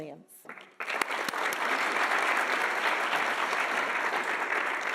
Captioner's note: audience applauding